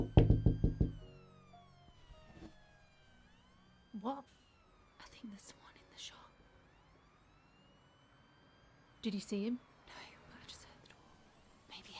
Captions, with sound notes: (knuckles tapping door) Open up. What? - I think there's someone in the shop. (sirens continue whining) - Did you see him? - No. I just heard the door.